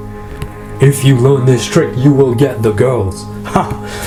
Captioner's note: laughs